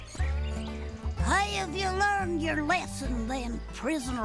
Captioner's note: cowboy accent